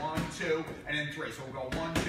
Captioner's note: target being punched